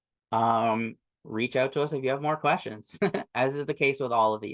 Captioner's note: chuckles